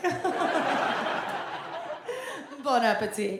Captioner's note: audience laughs